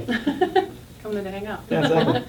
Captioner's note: laughing